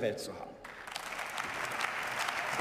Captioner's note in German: Beifall